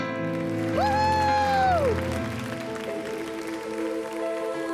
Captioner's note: cheering and applause